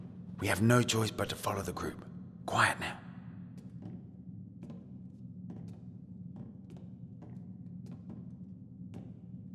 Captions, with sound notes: We have no choice but to follow the group. Quiet now. [soft footsteps]